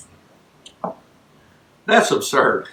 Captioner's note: cup thuds